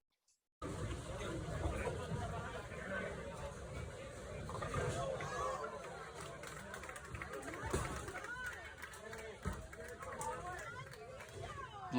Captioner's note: people talking and clapping in the background